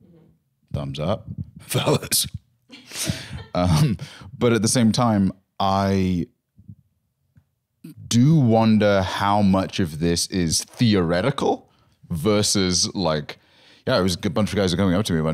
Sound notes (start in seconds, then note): 2.7 laughs